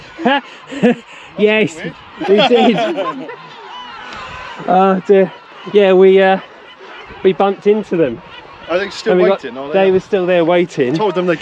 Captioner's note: laughter